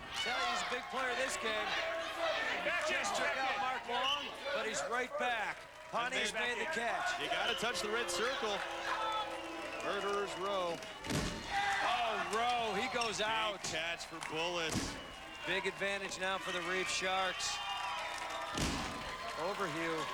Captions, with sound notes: Tell he's a big player this game. Just took out Mark Long. But he's right back. Pontius made the catch. You gotta touch the red circle. [audience moans] "Murderers" Roe. Oh, Roe. He goes out. Big catch for Bullis. Big advantage now for the Reef Sharks. Overheu.